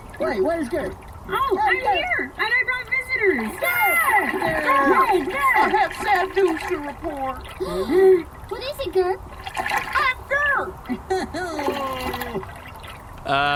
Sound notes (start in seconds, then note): 3.4 Gurps cheer for Gerp; 7.5 Gurps gasp; 13.4 Gurps moan sadly